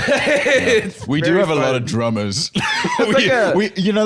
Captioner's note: laughs